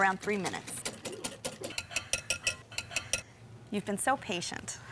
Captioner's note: whisk rattling